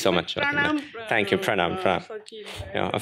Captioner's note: non-english